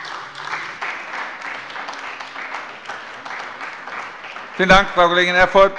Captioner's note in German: Beifall bei dem BÜNDNIS 90/DIE GRÜNEN und der CDU